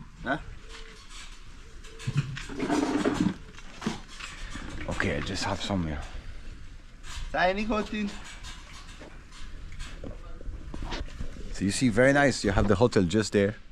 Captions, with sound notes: Huh? Okay, I'd just have some here. -[foreign language] -So you see, very nice. You have the hotel just there,